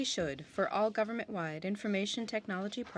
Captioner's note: speaking French